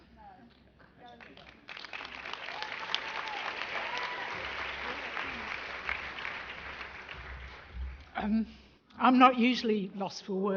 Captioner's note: applause